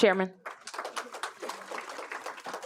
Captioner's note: applause